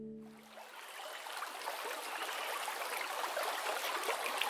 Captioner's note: water gurgling